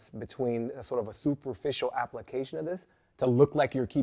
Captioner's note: none